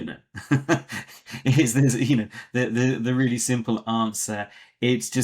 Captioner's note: laughs